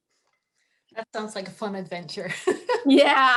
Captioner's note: laughs